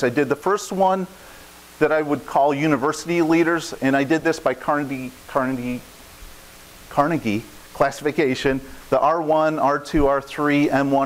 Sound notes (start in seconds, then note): none